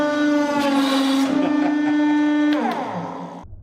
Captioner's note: evil chuckle